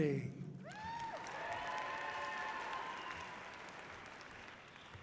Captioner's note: audience cheering loudly